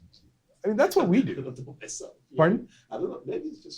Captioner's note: speaking from off mic